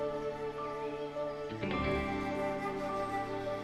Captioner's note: birds chirping